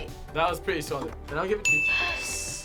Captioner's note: bell dings